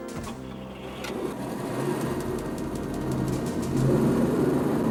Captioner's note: engine rumbling